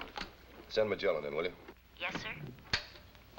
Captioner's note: voiceover